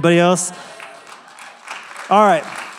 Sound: applause

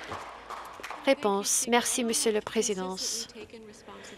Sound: some Applause

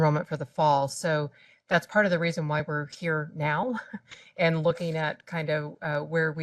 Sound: laugh

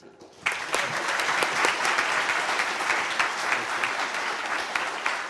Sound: audience applauding

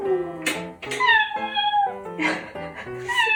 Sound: meow

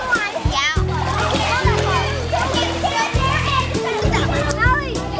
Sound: kids splash and giggle

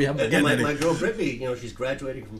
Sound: voiceover

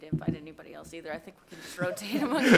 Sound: laughter

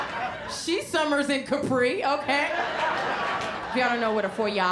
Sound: laughter

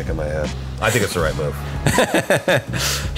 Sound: laughing

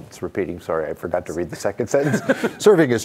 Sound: laughs

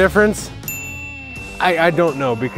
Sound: timer clicks

